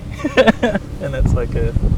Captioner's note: laughs